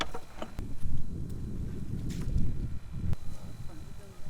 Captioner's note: wind blowing